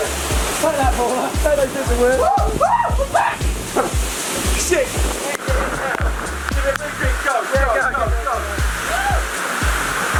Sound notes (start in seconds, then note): 2.2 screaming; 7.8 yelling